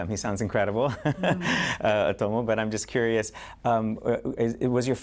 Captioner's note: laughter